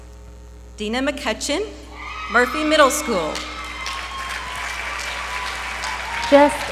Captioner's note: applause